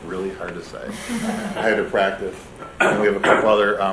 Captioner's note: laughter